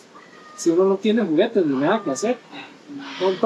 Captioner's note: in Spanish